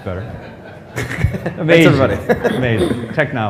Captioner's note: laughter